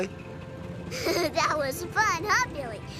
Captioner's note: giggles